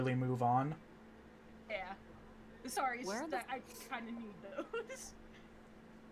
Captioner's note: laughs